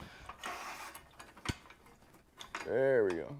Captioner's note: metal scraping